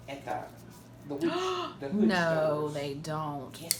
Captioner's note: gasping